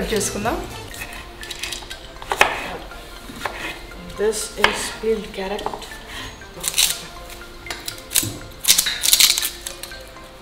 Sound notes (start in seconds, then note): 0.2 chopping Noise; 6.2 onion Skin Peeling Noise